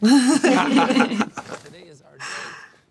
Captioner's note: both laugh